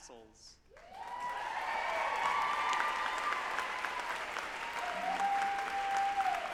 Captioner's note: group applauding and cheering